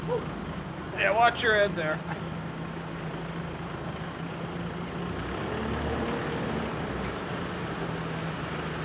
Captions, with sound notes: - Woo. - Yeah, watch your head there. (egine hums)